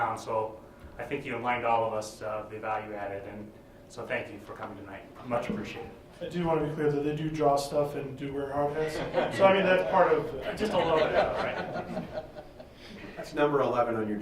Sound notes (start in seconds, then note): 10.3 laughing